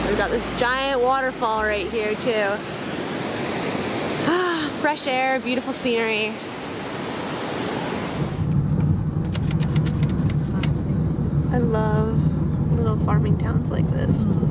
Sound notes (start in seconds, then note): 4.2 sighs; 9.2 typewriter clicking